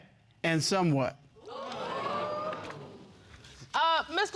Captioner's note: audience exclaiming